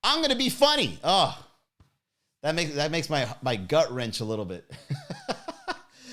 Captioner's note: laughs